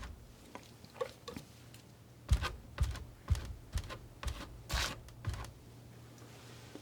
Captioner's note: scratching